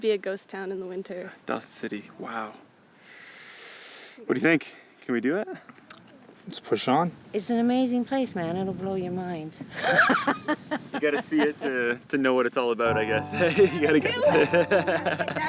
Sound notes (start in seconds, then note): 3.0 long inhalation; 9.7 hearty laugh